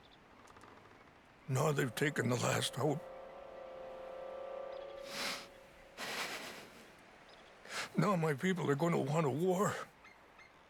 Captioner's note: sobs